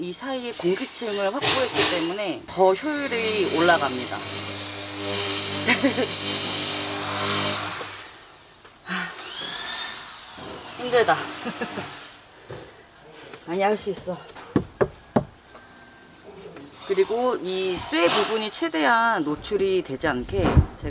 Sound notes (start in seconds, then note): 11.3 laughter